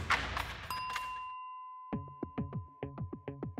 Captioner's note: bell dings; suspenseful music